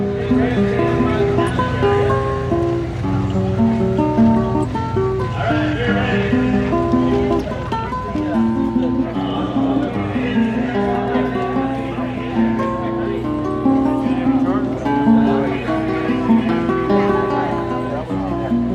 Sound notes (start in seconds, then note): 0.2 classical Guitar Music Plays; 6.9 crowd chattering